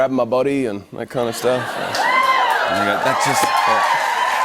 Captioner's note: laughter, cheers, applause